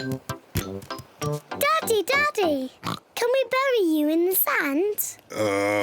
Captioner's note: oinks